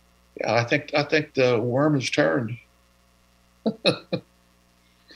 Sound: laughter

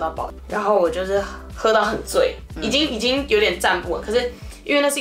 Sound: drunk almost

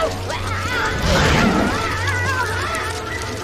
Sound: geologist screams; centipede roars

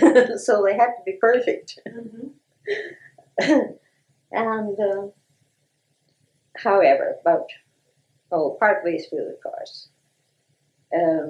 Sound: laughter

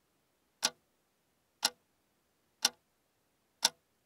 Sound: clock ticking

